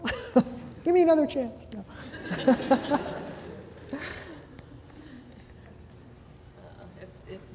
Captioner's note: laughter